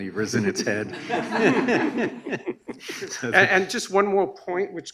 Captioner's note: audience laughs